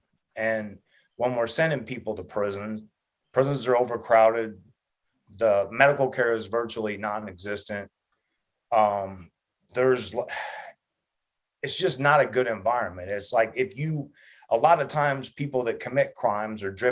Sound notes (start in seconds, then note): 10.3 sighs